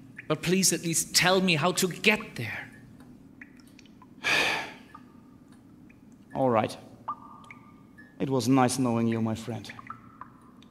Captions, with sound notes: But please, at least tell me how to get there. *sigh* All right. It was nice knowing you, my friend.